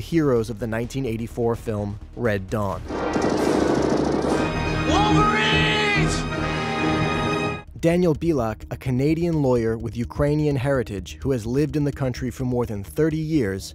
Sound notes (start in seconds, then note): 2.9 guns firing; 3.2 intense music